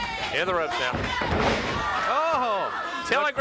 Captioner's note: body thudding